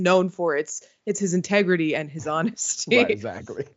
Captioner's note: laugh